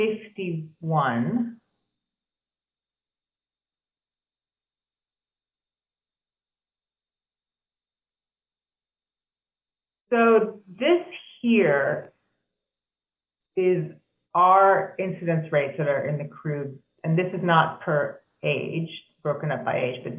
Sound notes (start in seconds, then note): 1.7 silence